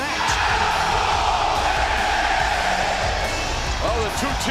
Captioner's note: crowd cheering